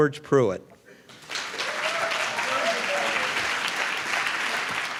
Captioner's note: applause